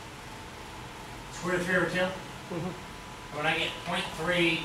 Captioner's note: speaks softly